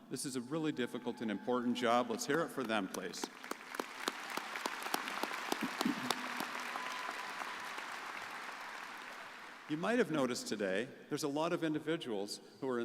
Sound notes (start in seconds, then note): 4.1 crowd applauding